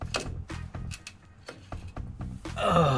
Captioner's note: snap